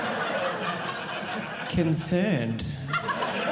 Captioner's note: audience laughing